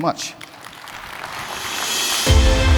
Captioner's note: applause